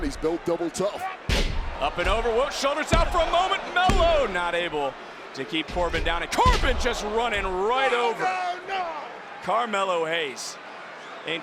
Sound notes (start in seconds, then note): 1.2 wrestlers thudding